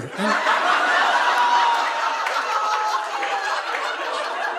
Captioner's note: audience laughing